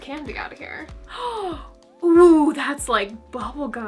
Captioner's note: gasp